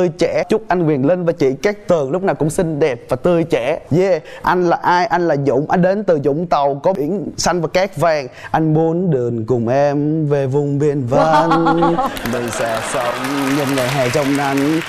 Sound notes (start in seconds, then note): 11.2 laugh